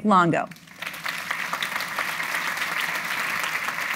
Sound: crowd applauds

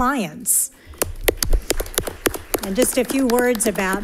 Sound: audience applauding

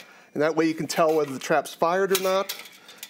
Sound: trap snaps

